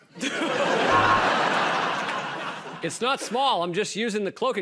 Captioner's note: laughter and applause; buzzer